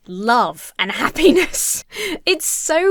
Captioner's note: laughs